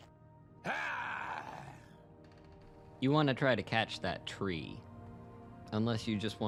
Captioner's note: argh!